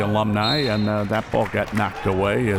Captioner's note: whistle